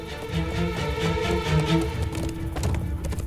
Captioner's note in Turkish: At nalı sesi